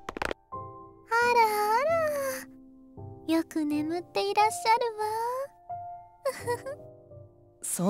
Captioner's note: giggle